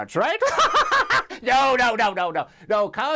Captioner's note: laughs